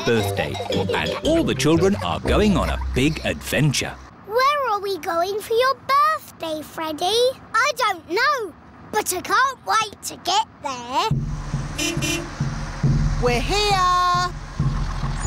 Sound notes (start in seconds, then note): 11.7 horn beeps